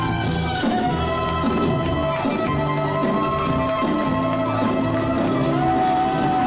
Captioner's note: audience applause and cheers